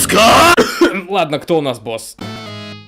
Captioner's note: cough